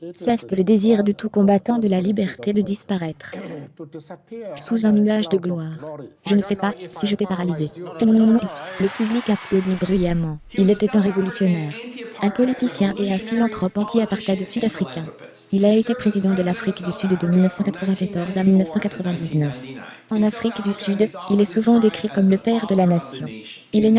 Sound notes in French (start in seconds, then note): 8.5 Le public applaudit bruyamment